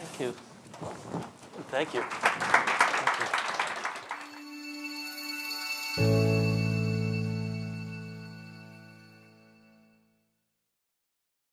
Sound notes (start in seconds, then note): 1.8 audience applauding; 4.1 calm music